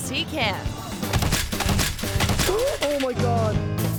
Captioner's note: thuds